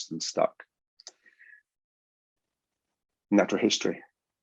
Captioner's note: mouse clicks